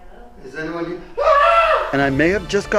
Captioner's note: screaming